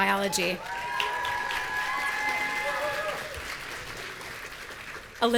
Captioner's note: audience cheering